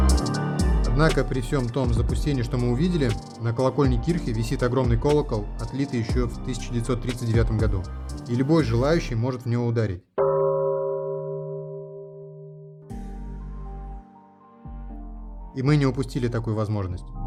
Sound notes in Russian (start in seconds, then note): 10.2 звук колокола